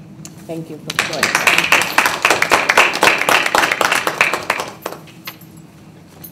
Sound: applause

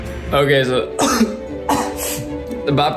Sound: coughing

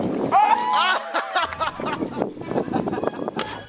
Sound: laughs

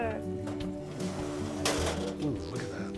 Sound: pan dragging

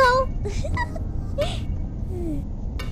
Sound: laughs

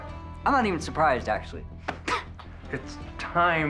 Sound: laughs

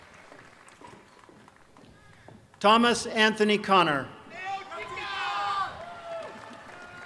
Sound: applause

